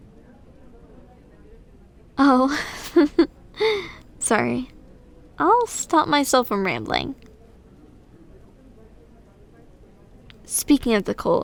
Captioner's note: soft laugh